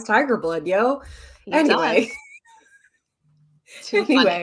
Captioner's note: chuckles